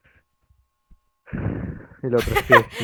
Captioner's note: sigh in sadness